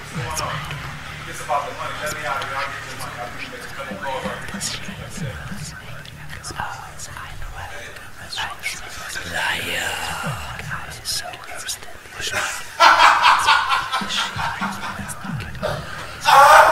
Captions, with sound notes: - Hey, what's going on? If this is about the money, let me out of here I'll get your money. I'll make a couple calls and I'll get your money by today. (whispers) - [Whispers] Liar. (laughing)